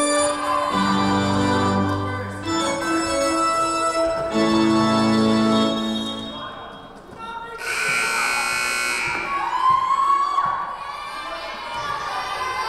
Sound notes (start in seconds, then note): 5.9 whistle blowing; 7.6 buzzer buzzing